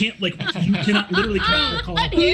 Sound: group laughs

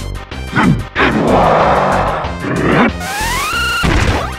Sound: grunt gibberish

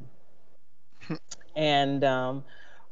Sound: person scoffs

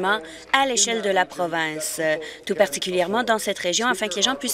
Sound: applause

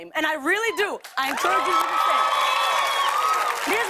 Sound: cheers and applause

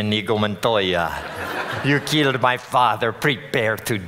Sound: audience laughing

